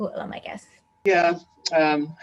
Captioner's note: laughs